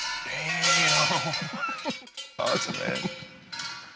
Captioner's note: laughs